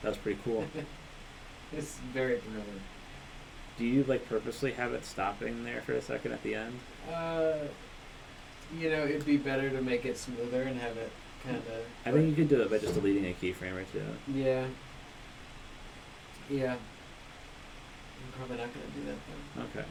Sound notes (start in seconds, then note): 0.4 laughs